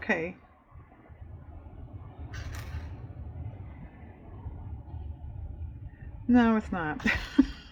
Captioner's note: laughs